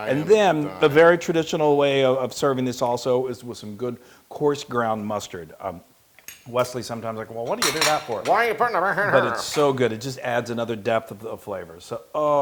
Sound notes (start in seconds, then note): 8.1 laugh